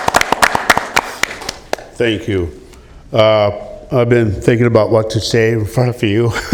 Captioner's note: applause